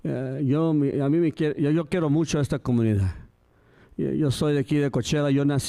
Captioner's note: speaking in Spanish